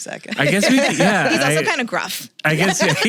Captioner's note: both laugh